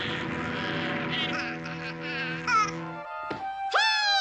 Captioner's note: laughing; plane droning